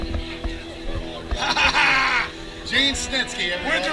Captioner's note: laughter